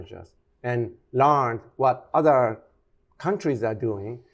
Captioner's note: none